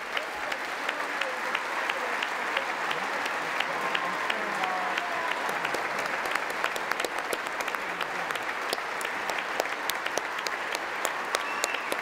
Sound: applause

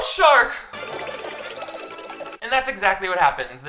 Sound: cartoon running

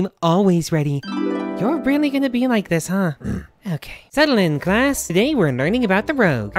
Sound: sigh

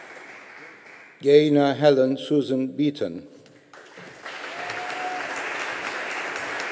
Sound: audience applauding

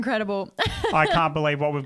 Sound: laughs

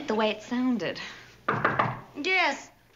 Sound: knock

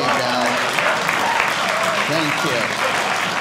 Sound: audience applauding

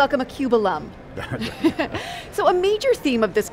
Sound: laughing

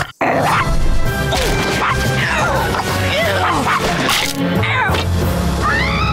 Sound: growling; barking, groaning; screaming

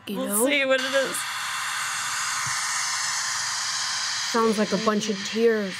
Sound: static

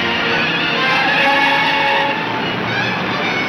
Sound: tires squealing

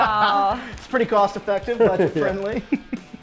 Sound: laughs

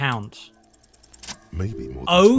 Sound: roll SFX

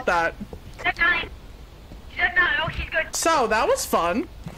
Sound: over Radio

